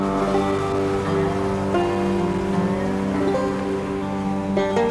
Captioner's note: water crashing